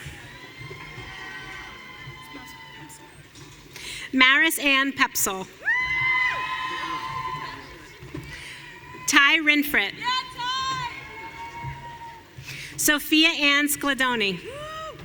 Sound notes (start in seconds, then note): 0.0 audience cheering; 5.5 audience cheering